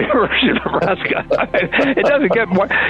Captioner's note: both laughing